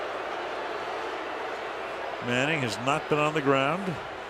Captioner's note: booing